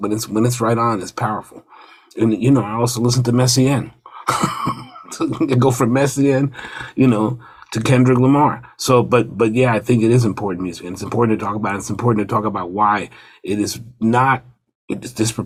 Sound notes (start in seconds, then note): 4.1 laughs